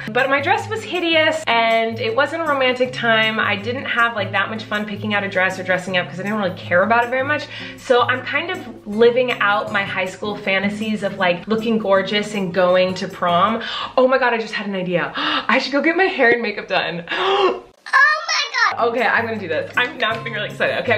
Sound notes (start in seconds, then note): 15.3 gasps